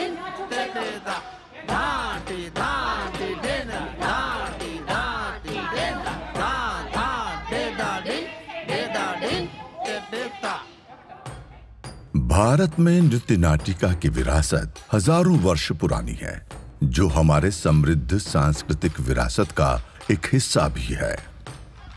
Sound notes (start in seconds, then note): 1.4 dancers murmur while adjusting positions